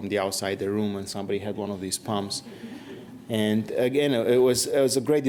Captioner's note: laughter